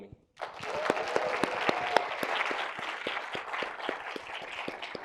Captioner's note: audience applauding